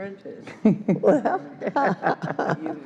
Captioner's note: ALICE laughs